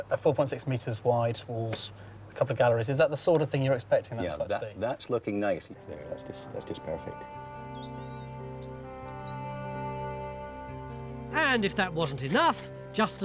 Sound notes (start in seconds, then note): 7.7 birds sing; 7.7 gentle music